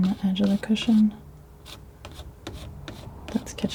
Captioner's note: scratching